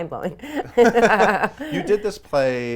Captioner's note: laughing